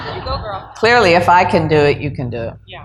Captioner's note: laughter